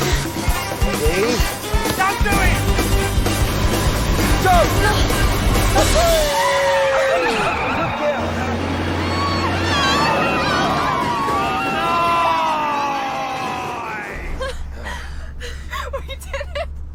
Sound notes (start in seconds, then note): 6.8 Alice laughing; 14.4 laughing